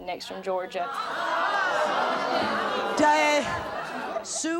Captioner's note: audience jeering